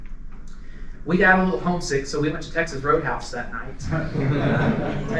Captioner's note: laughter